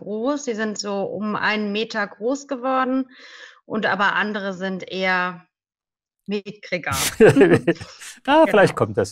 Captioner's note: laughter